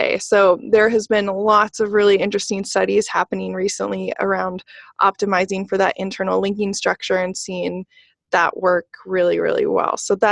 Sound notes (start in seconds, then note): none